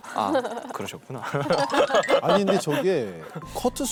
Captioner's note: laughing out loud